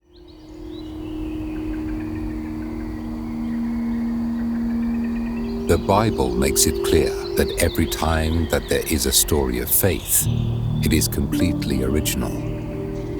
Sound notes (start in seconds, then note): 0.0 birds chirping; 0.0 gentle music